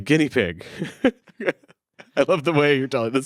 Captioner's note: laughing